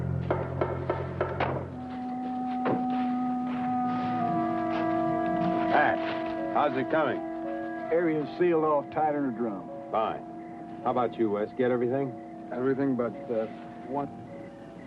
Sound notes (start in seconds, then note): 7.8 pat